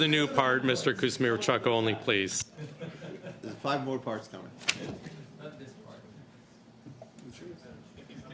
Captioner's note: laughter